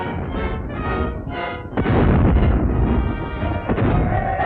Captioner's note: cannons booming; cheering